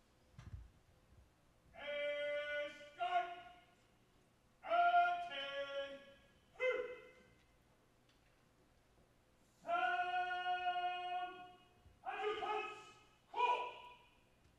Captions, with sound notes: (Marine shouting orders) - Sound adjutant's call!